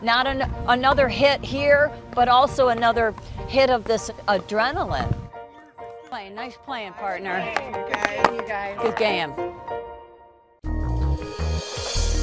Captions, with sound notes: - Not another hit here, but also another hit of this adrenaline. Nice playing, playing. (group talking together) - Good game. (gentle, upbeat music)